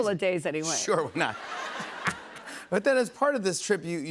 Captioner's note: laughter